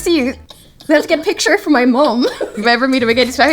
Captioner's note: giggles; Lydia laughs